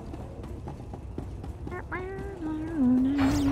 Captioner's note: humming